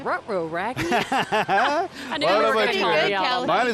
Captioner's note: laughing